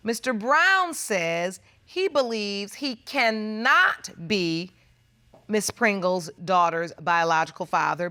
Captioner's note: none